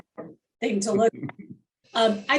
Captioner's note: chuckles